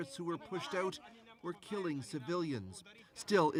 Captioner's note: speaking French